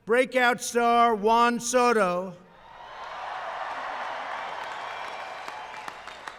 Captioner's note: applause